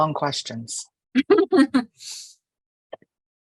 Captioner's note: laughing